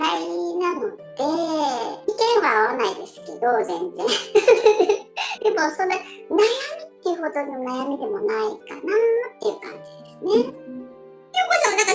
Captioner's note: laugh